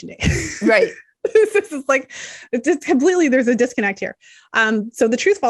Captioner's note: chuckles